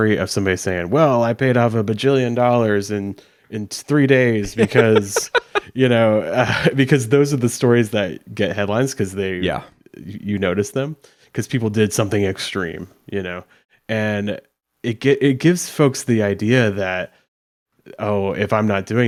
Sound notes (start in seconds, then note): 4.4 laughs